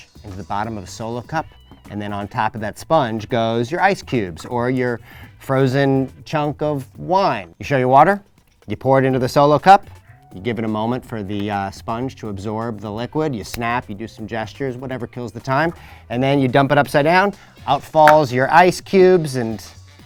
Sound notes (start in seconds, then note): none